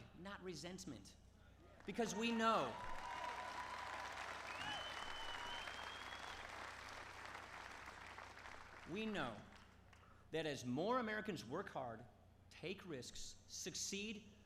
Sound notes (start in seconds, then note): 1.8 applause